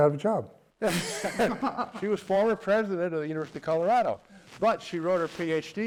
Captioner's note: laugh